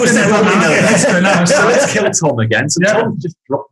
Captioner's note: group laughing